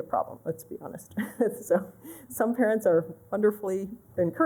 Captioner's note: laughter